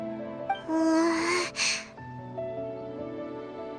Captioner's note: gulp